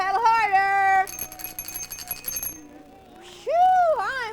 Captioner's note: rings bell